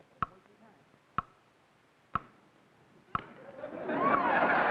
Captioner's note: clock ticking; crowd laughing